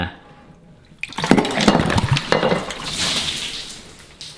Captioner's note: water spilling